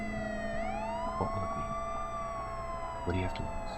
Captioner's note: sirens continue blaring